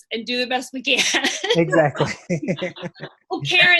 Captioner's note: laughs